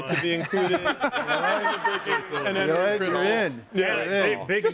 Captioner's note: everyone laughs